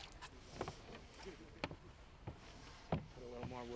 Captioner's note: fish splashing